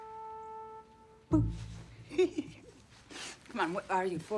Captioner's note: giggles